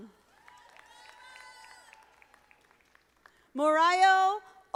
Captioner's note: audience applauding